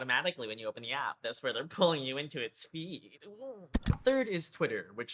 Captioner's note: click